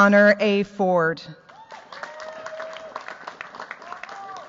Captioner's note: cheers, applause